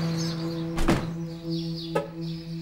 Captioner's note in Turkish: Araba sesi; Kuş cıvıltısı sesleri; Kapı kapanma sesi